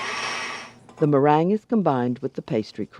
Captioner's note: voiceover